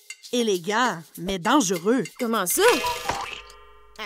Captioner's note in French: coucou de l'horloge